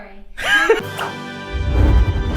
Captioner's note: dramatic music; laughing